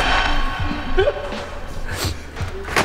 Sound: laugh

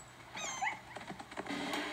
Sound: whimper; squeak

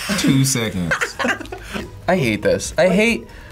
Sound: laughs

